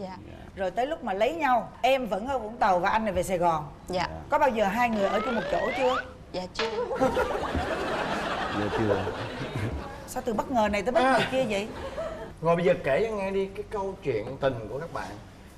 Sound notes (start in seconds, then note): 6.7 laughing